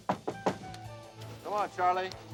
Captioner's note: knock on door